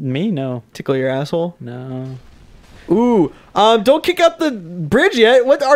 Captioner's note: quietly